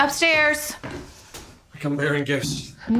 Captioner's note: footsteps approaching